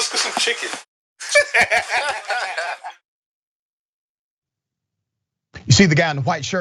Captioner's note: laugh